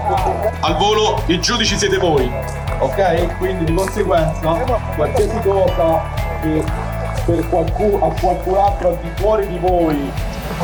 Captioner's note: sounds of the competition venue